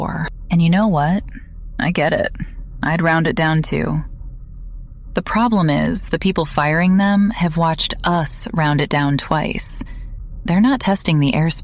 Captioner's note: breath